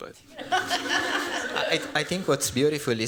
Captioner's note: laughter